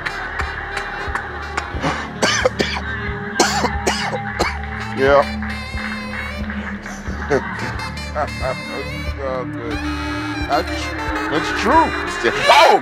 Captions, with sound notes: (coughs) Yeah. (laughs) It's true.